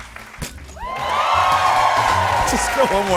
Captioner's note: cheers and applause